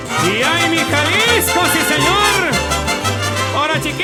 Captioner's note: man shouting in Spanish